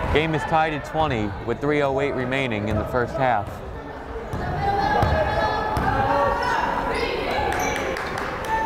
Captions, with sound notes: Game is tied at 20, with 3:08 remaining in the first half. (crowd cheering)